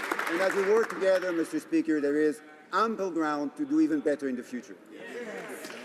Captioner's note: some Applause